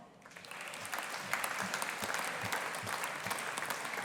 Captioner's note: audience applauding